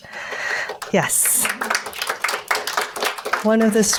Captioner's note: audience applauds